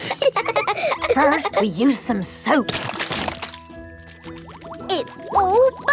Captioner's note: laughing; squirt! squirt!